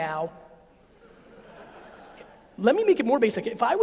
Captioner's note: audience laughs